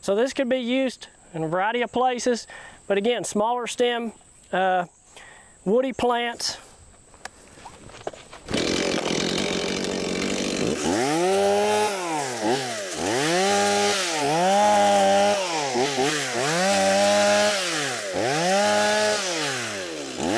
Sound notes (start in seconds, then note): 6.2 chainsaw noise